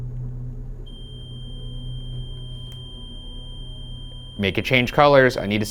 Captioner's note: REM pod screeching